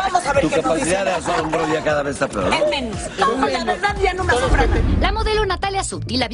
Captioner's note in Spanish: risas